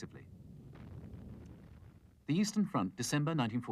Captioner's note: tank fires